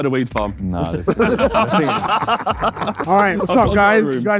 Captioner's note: group laughing